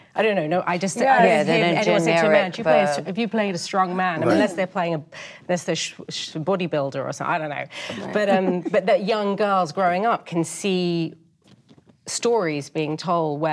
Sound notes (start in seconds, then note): 7.9 woman chuckles